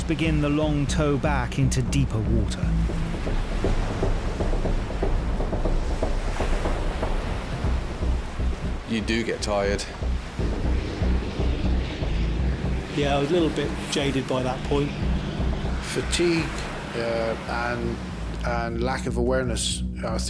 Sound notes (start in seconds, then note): 4.0 tense music continues; 4.0 water sloshing